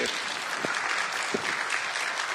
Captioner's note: applause